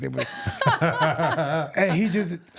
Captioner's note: chuckling